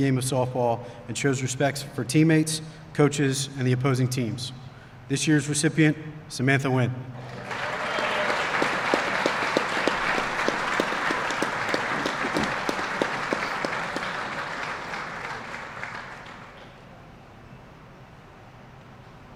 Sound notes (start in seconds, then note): 12.5 applause